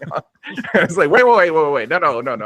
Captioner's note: laughing